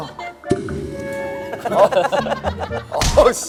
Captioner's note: laughing